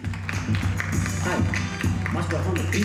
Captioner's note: audience applauding